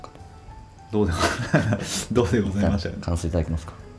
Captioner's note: laughs